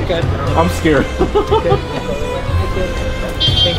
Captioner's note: laughing